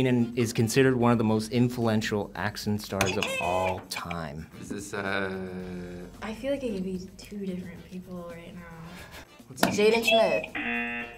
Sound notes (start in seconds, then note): 4.0 buzzer rings; 10.4 buzzer